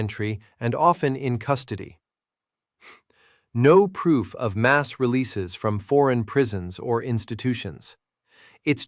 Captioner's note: exhales sharply